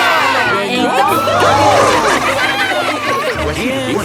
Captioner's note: laughing